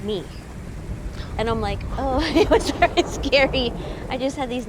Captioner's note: laughs nervously